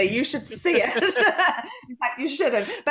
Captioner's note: laughs